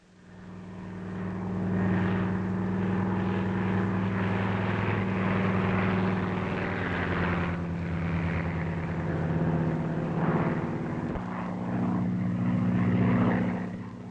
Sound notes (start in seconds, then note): 1.9 plane rumbling